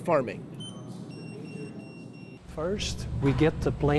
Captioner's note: scanners beeping